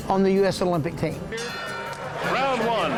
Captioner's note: boxing ring bell